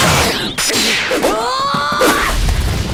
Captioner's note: yelling